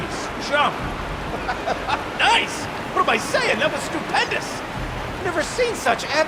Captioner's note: laughs